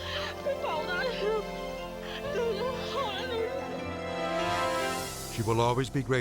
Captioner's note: interviewee speaking in Mandarin